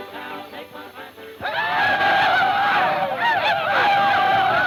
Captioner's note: group ululating